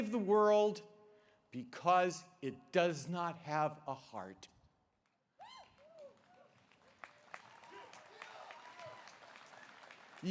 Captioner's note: applause